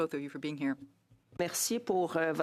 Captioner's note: speaking French